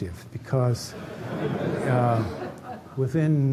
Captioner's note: laughter